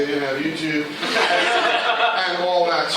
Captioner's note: laughter